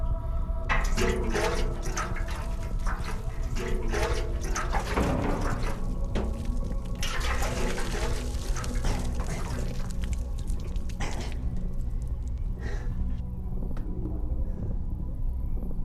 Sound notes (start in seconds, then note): 10.0 heavy breathing